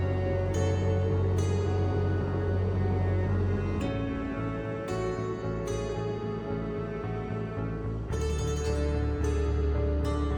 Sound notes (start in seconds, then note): 0.0 somber music; 2.1 engine rumbling